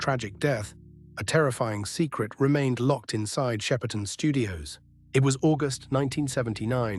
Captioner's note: SFX: low ambient hum